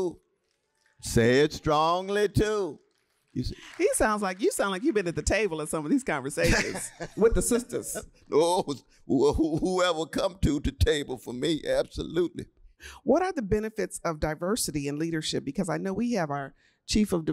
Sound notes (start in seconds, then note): 1.6 applause; 6.4 laughter